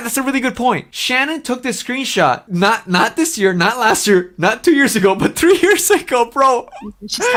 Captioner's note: laughs